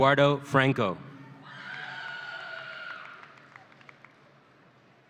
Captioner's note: audience cheering